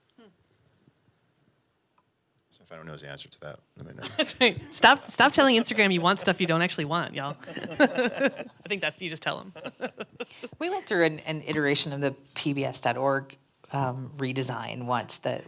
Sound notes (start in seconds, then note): 4.0 laughs; 7.7 panel laughing